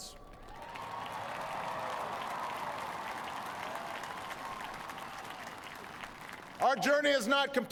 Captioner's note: applause